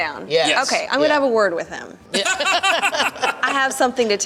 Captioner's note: laughter